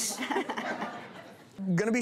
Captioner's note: laughter